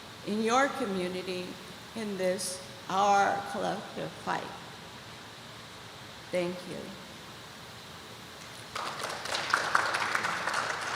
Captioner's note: applause